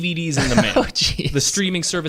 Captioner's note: laughs